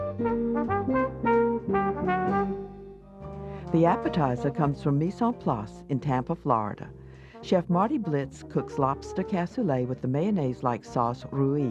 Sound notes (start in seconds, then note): 0.0 jazz trumpet music; 3.7 voiceover